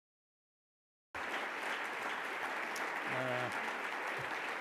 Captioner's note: audience clapping